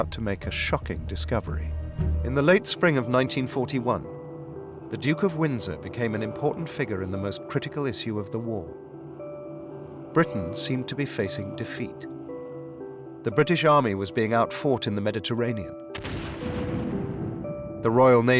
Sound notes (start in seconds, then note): 13.9 explosions